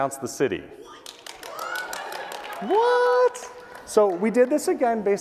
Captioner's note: applause